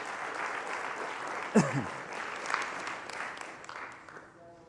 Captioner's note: applause